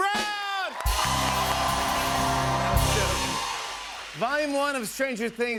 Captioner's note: cheers and applause